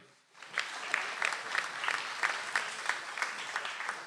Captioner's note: audience applauds